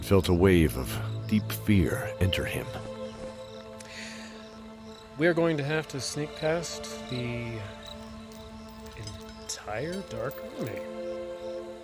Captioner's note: sighing